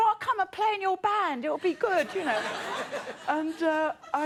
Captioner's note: audience laughing